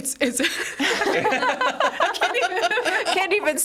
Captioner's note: group laughs